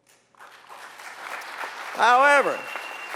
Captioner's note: applause